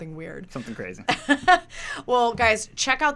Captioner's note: laughs